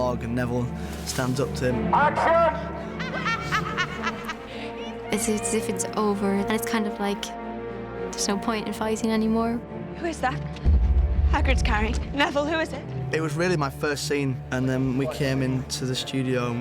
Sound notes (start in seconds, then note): 3.0 bellatrix cackles